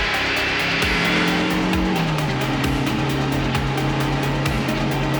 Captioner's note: engine revving